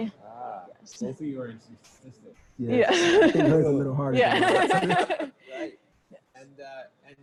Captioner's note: laughter